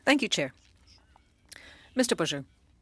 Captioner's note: speaking French